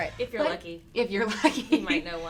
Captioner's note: laughs